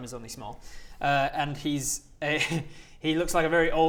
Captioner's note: laughs